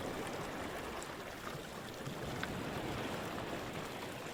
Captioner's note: water gushing continues